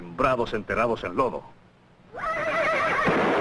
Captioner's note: horse whinnying